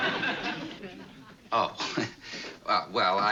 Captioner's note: laughs